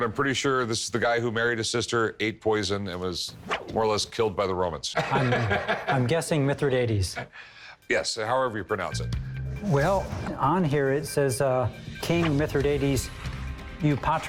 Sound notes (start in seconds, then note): 5.0 laughs